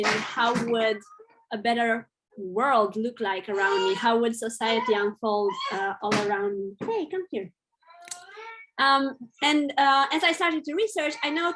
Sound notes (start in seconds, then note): 7.8 baby crying